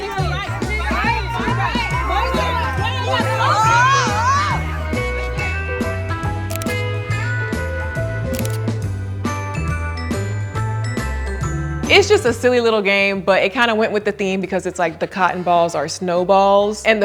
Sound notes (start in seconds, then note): 6.4 camera snapping